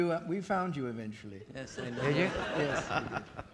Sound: audience laughing

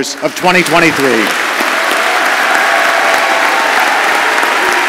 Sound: audience applauds

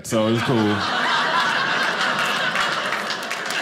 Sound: audience laughing

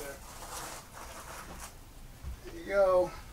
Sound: footsteps plodding

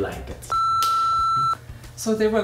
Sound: loud high-pitched tone plays

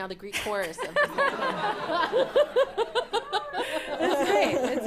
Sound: laughter

